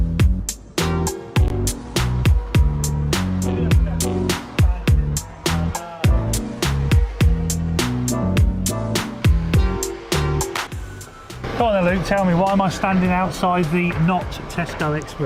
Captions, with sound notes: (traffic and conversation noise) - Well Luke tell me, why am I standing outside the not Tesco express?